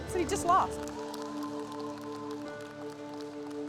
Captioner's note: cheers and applause